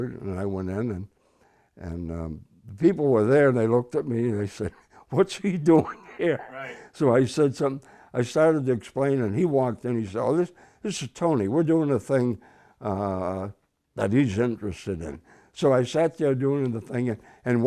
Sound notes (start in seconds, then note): 5.8 laughing